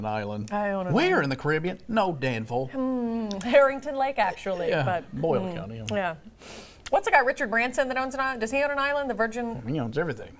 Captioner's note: laughter